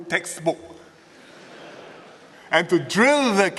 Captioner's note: laughter